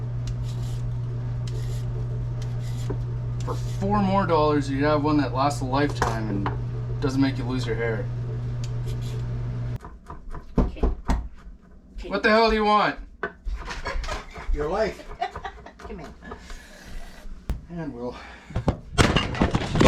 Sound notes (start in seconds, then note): 10.7 knock Knock; 16.6 laughter